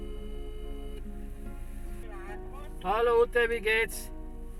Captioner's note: phone ringing